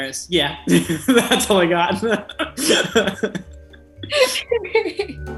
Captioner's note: laughing